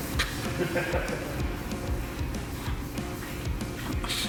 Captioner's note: laughter